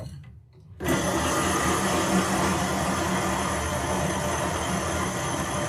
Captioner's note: motor running loudly